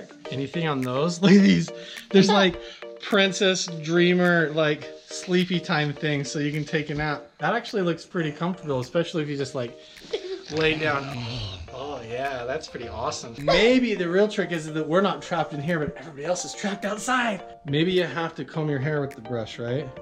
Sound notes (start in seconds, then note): 10.2 snoring; 13.0 laughter